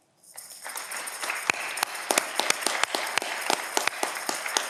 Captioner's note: audience clapping